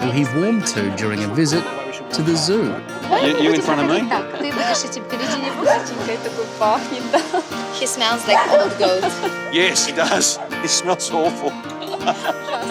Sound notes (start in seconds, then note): 0.0 speaks ukrainian; 3.8 speaks ukrainian; 8.0 laughs; 11.1 both laugh